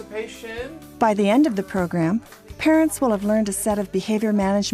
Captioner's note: voiceover